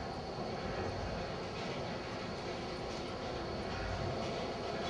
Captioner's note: humming ventilator